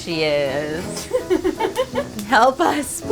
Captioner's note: laughs